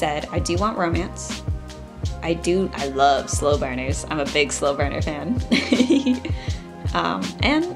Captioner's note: laughs